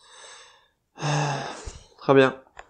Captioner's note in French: Soupir